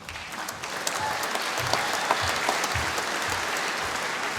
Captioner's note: applause